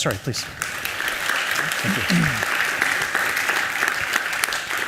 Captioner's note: applause